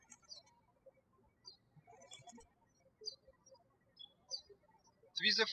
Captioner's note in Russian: птички щебечут